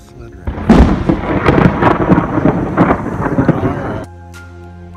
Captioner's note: thunder Clap